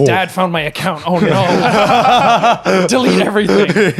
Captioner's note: laughing